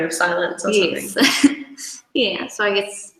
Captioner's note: laughs